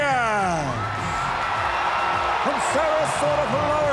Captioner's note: crowd cheering